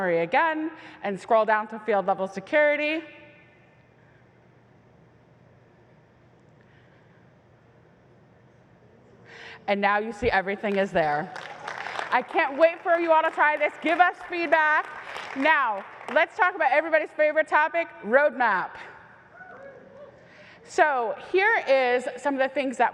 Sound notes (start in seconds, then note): 11.0 applause; 19.1 cheer